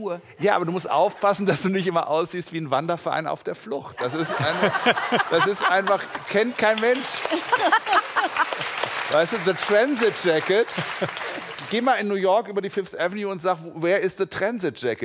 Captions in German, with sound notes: Ja, aber du musst aufpassen, dass du nicht immer aussiehst wie ein Wanderverein auf der Flucht. *Lachen* Kennt kein Mensch. *Applaus* "The Transitjacket" Geh mal in New York über die 5th Avenue und sag: "Where is the Transitjacket?"